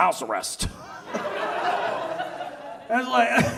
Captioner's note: audience laughs